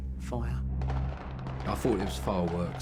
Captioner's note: distant gun fire rapidly